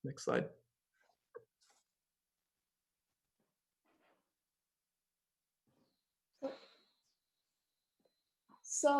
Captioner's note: silence